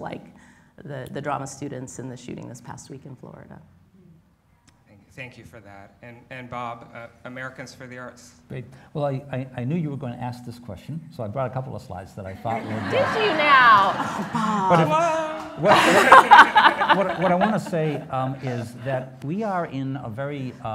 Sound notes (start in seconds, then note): 12.6 laughs